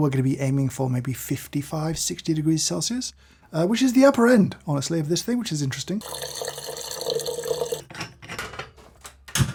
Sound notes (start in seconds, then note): 6.0 water pouring